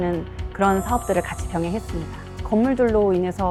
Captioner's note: emphasizing sound effect